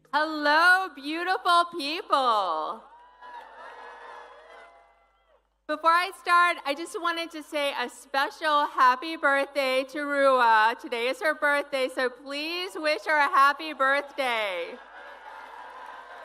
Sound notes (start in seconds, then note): 6.0 applause